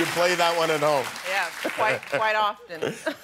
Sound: cheers and applause

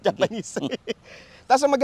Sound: laughs

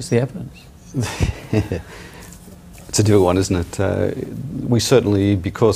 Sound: chuckles

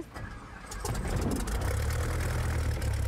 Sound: engine rumbles to life

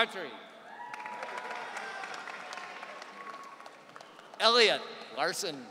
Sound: audience cheering

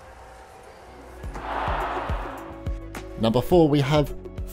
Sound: low thudding; crowd cheering

